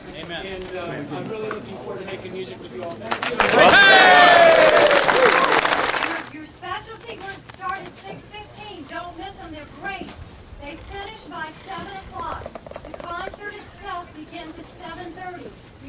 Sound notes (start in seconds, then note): 2.8 choir applauding; 3.1 choir members cheering